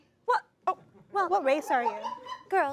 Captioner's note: audience laughs